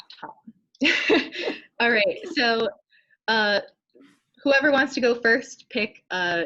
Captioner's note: laughs